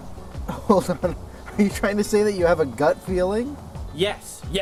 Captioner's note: chuckling